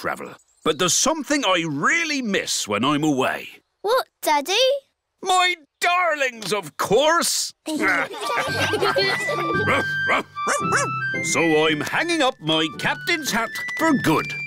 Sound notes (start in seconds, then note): 7.7 all laughing; 8.3 captain and danny dog bark